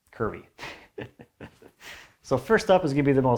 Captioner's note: chuckles